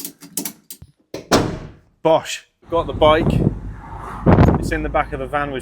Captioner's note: thud